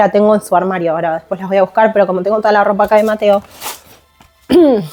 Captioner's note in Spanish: carraspeo